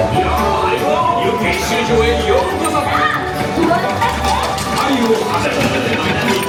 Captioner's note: characters speaking in Japanese